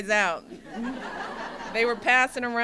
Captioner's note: laughter